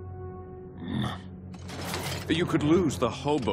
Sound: grunting

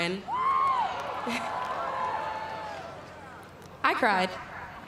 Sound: cheering

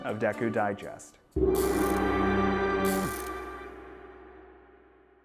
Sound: logo chimes and clicks

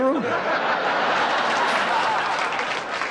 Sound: laughter

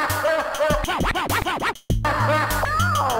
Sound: evil laugh; disc scratching; evil laugh

